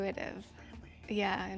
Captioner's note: whispering